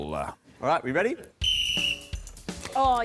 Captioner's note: blows whistle